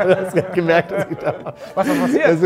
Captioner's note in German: lacht